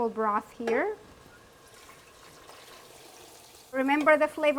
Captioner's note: food sizzling; broth pouring